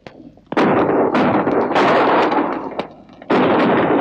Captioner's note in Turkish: Silah sesleri